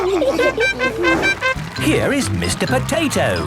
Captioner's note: all laughing; horn tooting